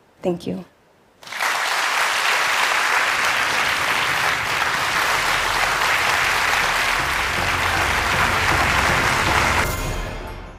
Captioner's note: applause